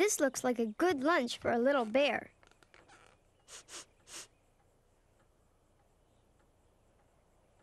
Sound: sniffing

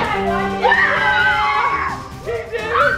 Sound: victory music; screaming

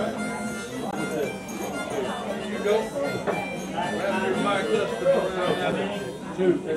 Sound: harmonica music; people chattering

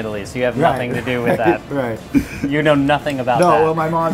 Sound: laughs

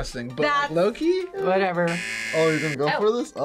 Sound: buzzer

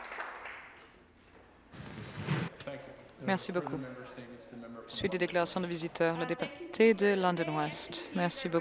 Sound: some Applause; applause

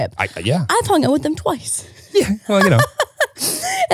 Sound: laughing

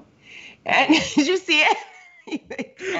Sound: both laugh

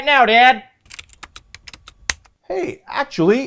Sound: typing on computer keyboard

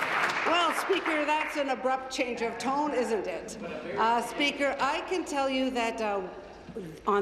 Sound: applause

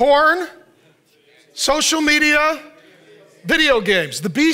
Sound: audience murmuring

